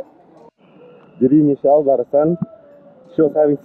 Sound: laughs

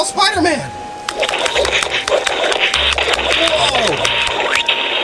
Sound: fighting sounds

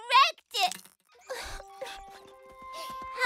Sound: sobbing

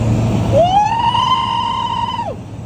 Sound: fearful screaming

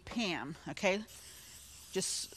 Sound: can spraying

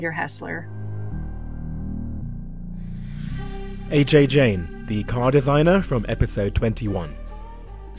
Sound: voiceover

